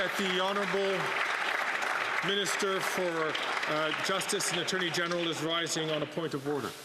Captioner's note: applause